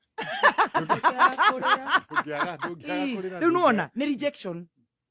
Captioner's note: laughter